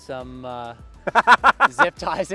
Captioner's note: laughs